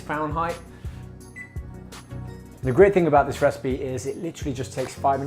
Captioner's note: beep